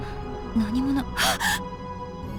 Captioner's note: realization gasp